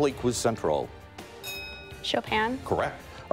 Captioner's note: bell rings